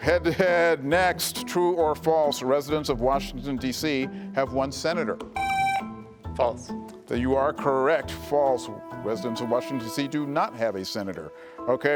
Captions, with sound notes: - Head-to-head, next, true or false, residents of Washington, D.C. have one senator. (buzzer buzzing) - False. - You are correct, false. Residents of Washington, D.C. do not have a senator.